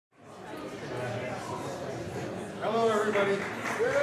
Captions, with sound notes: (general chatter) >> Hello, everybody.